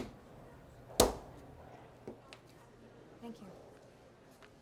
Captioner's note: stamp thuds